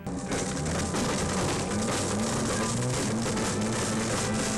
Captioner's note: blender crunches